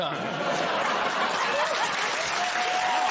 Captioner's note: laughter